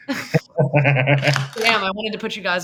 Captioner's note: laughs